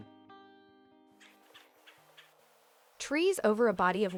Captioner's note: birds chirping